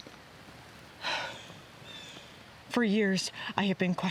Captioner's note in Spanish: Debra suspira